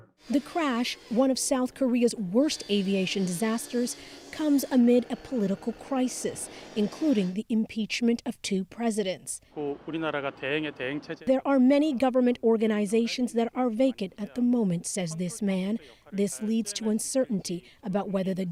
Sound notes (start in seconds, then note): 11.7 speaking alternate language